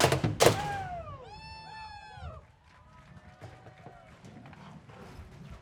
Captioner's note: audience cheers